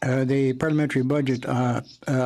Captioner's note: speaking French